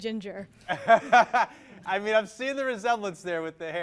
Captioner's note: laughs